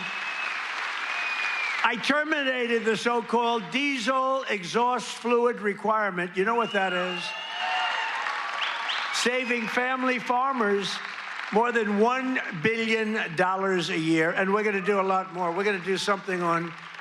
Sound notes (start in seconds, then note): 3.2 applause